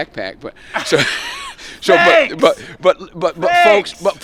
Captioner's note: chuckling